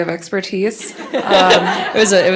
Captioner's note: laughter